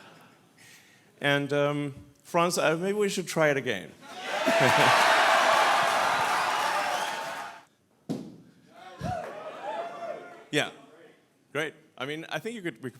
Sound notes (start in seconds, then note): 4.0 audience cheers